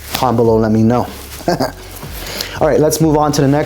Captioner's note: laughter